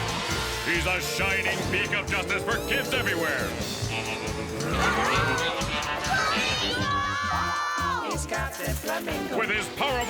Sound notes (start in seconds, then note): 3.0 motorcycle engine revving